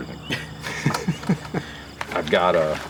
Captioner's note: laughs